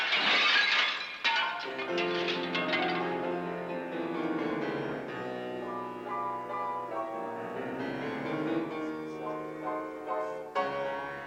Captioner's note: glass shatters